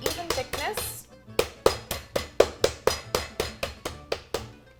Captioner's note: meat mallet pounding